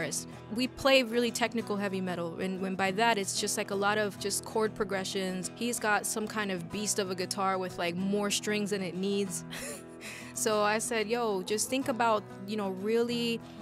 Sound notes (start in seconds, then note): 9.5 laughs